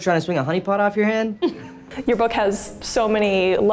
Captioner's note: Leslie chuckles